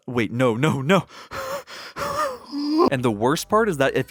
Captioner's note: panicked wheezing